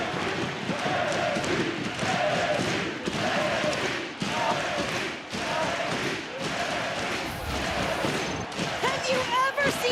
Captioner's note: crowd chanting